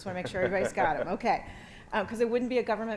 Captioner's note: panelists chuckling